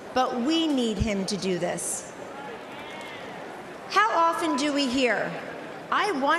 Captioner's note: cheering and applause